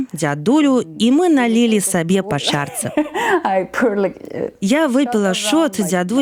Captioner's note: laughs